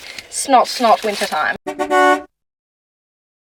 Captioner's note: beep beep beep